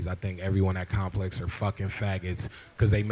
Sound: none

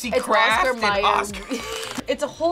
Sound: both laugh

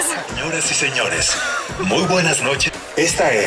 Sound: announcer over the loud speaker

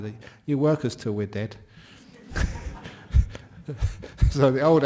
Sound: laughter

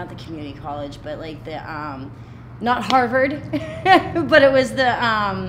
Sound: laughing

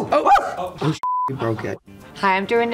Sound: beep

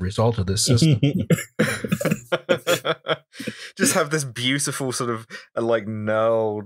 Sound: laughter

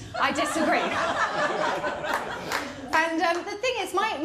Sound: laughter

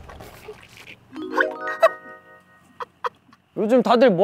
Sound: A happy moment with continuous laughter

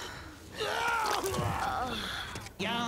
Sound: vomits; sighs

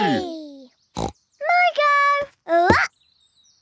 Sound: snorts

